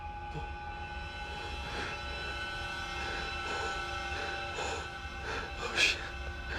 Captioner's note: Jack panting